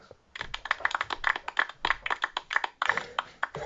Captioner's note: some applause